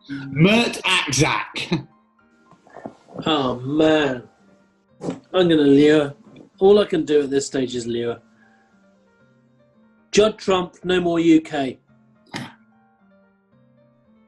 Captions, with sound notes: Mert Aksac. Oh, man. I'm gonna lure. All I can do at this stage is lure. Judd Trump, no more UK. [GASPS]